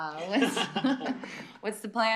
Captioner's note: laughter